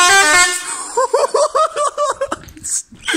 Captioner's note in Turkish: yine gülüyor